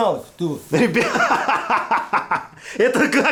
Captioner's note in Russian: смех